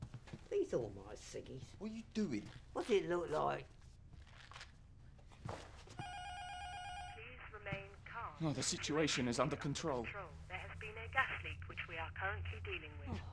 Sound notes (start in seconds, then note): 6.0 intercom buzzer ringing; 7.3 intercom; 10.5 intercom voice